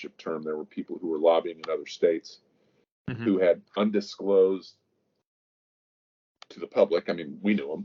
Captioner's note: mic cuts